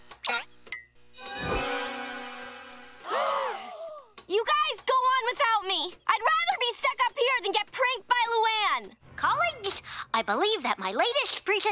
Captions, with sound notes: [gasping] You guys go on without me. I'd rather be stuck up here than get pranked by Luan. Colleagues, I believe that my latest presentation